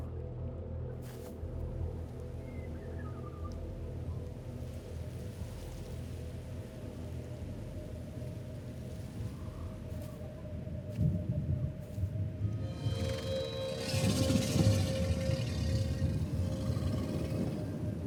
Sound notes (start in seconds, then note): 14.0 ethereal growling